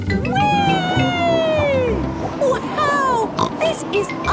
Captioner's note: snorts